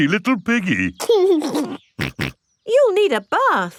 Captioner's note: giggles and snorts